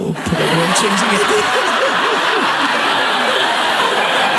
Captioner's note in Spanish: Risas